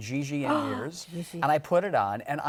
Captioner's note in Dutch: Gasps